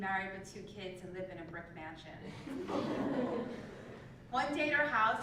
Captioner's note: laugh